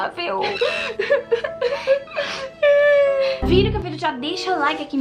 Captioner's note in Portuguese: chorando